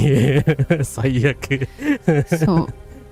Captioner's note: laughs